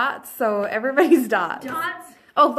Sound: chuckles

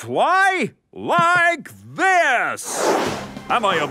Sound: whooshing

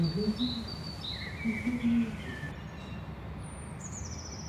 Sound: humming

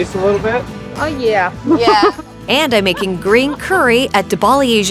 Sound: laughs

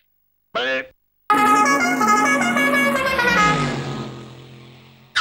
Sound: car Horn Sound

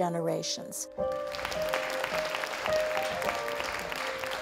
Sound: audience clapping

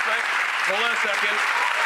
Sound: audience applauding

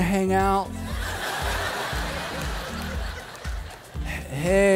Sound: crowd laughing

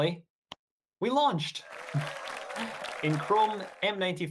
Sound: applause

